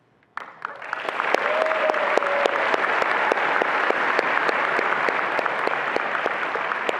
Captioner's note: attendees applauding and cheering